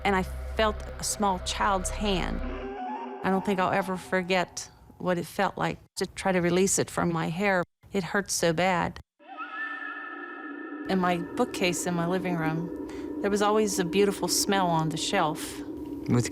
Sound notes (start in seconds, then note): 2.7 eerie sound; 9.2 haunting music